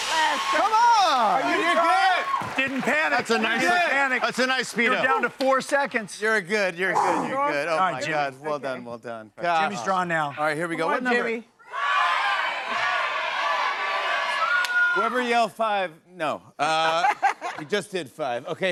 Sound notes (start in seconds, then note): 0.0 cheers and applause; 11.6 audience shouting numbers